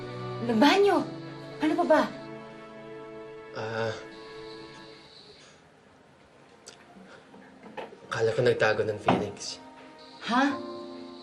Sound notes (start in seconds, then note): 4.3 music fades; 6.6 mouth clicks